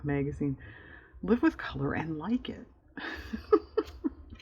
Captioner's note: laughs